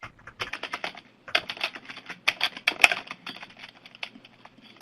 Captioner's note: keyboard typing